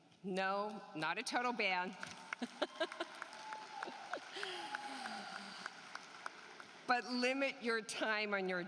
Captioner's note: laughter